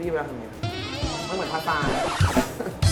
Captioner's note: Hahaha